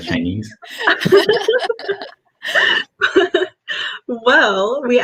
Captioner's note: laughs